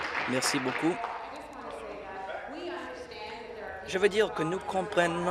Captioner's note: applause